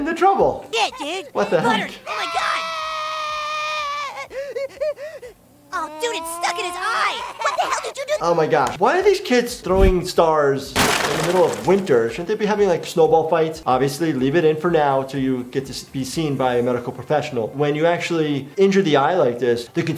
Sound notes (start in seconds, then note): 1.9 Butters screaming